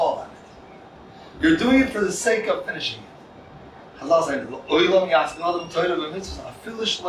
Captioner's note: Hebrew